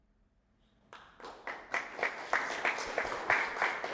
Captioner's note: audience applauds